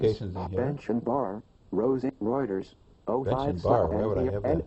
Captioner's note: iPhone announcing highlighted tabs